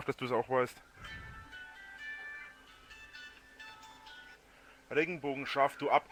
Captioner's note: cell phone rings